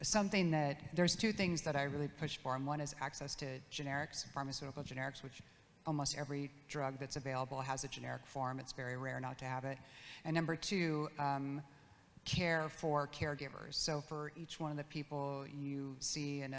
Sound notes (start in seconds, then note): none